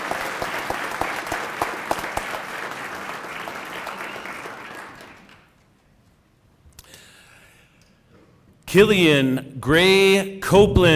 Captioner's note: cheering and applause